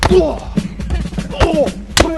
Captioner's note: laughs